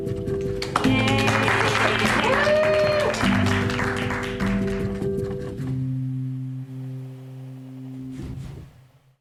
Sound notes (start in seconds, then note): 0.5 clapping and cheering